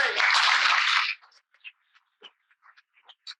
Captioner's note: hands clapping